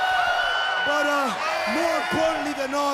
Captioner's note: crowd cheering